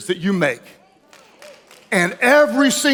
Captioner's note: audience member claps